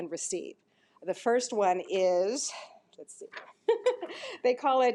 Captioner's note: laughs